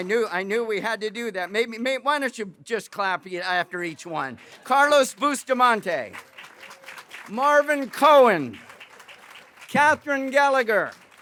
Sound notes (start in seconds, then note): 5.9 applause; 8.6 applause; 11.0 applause